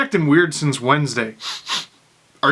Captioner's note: sniff sniff